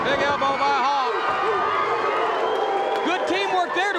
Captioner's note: audience barks